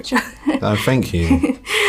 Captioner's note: chuckles